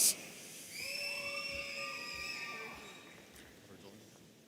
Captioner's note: audience cheering